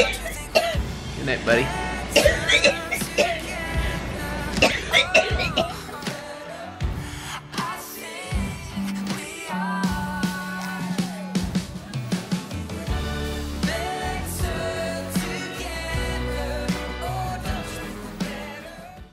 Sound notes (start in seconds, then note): 2.1 coughing